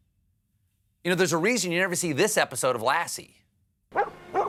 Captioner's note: dog barks